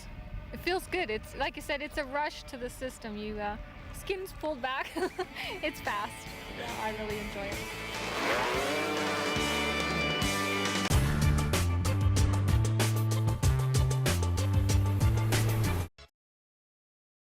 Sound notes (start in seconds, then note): 7.3 engine revving